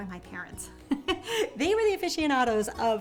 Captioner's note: laughing